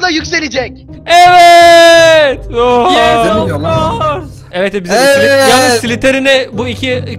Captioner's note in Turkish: herkes evet di̇ye bağirir